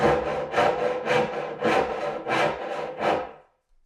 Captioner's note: saw scraping